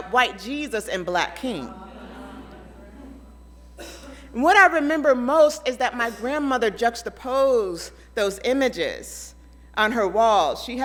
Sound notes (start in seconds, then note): 1.9 audience chattering